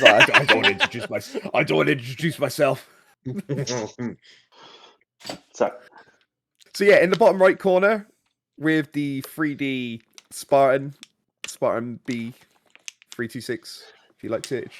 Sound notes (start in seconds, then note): 3.4 laugh